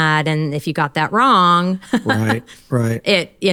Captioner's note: laughs